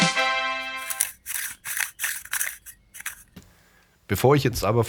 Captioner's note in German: glocke